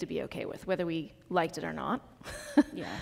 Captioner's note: laughs